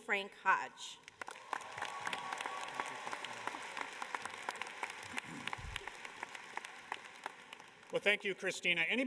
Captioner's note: cheers and applause